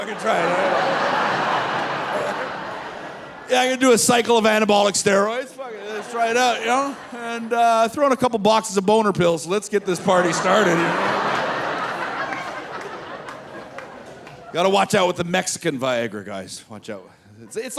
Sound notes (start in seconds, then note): 1.1 audience laughing; 12.9 audience laughing